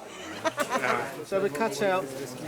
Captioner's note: chuckles